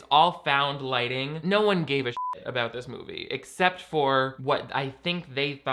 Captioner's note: beep